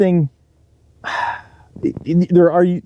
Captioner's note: sighs